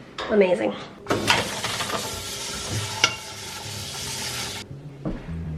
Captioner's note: water running